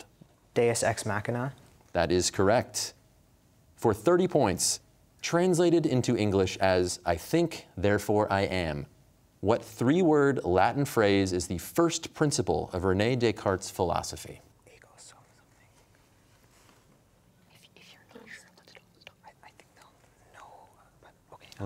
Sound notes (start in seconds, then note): 17.5 whispering